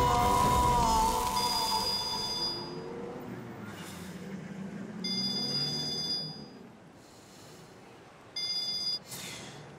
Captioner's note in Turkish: Telefon çalıyor